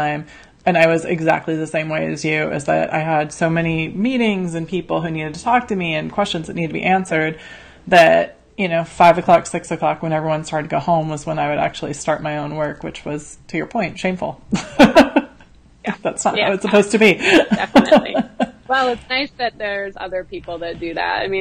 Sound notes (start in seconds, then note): 14.6 laughs